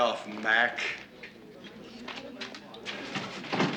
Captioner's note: chatter